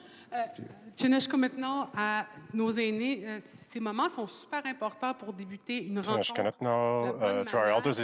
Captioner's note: speaking French